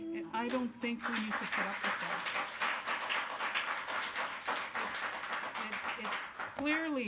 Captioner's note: attendees applauding